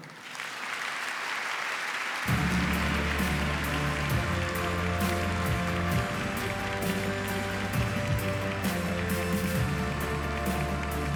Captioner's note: applause